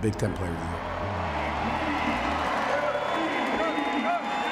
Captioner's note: cheering